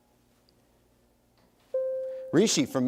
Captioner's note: bell rings